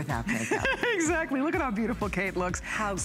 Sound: laughter

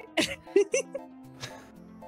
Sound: laughing

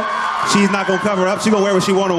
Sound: crowd cheering

